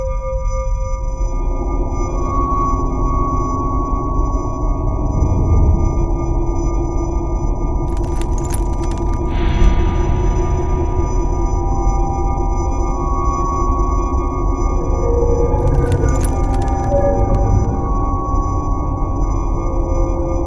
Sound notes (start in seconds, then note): 0.6 eerie music continues; 7.8 glass crunching; 15.5 glass crunching